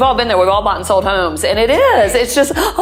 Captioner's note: exaggerated gasping